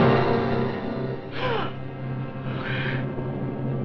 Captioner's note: gasps